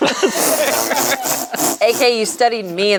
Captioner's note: group laughs